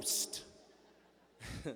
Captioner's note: laughter